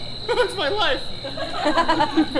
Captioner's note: laughs; audience laughs